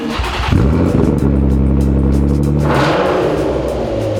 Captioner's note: engine revving